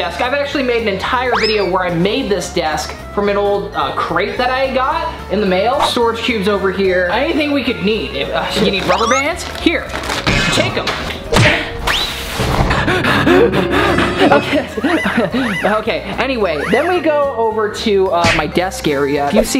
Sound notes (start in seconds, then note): 11.3 cartoonish smacking; 12.2 maniacal breathing; 15.6 laughs